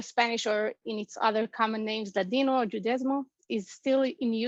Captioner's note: Spanish